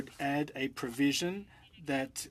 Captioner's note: speaking french